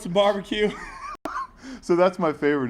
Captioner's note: laugh